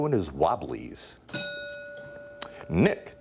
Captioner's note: bell dinging